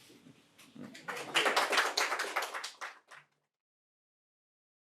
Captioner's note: audience applauding